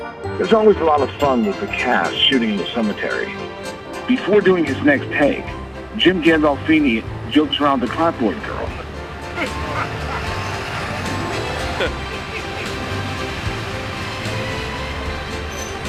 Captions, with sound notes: There’s always a lot of fun with the cast, shooting in the cemetery. Before doing his next take, Jim Gandolfini jokes around with the clapboard girl. [Laughter]